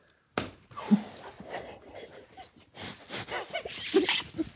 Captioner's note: group laughing